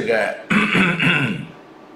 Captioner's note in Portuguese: pigarro